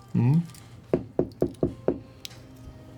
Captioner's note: knocking